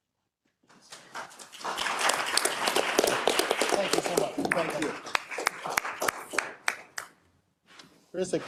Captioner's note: applause